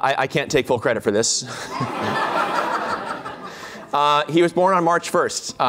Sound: laughter

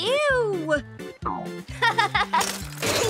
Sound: laughing

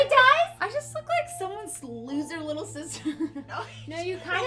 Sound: laughs

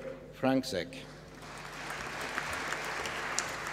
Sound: applause

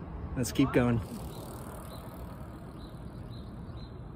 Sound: birds chirping

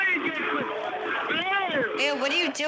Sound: yelling over the phone

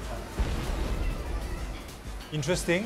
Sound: sound of head exploding

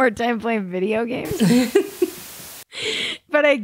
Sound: laughs

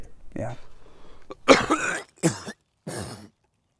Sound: coughing

